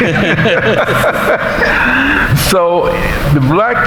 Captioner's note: laughing